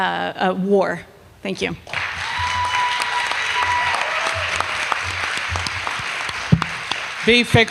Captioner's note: applause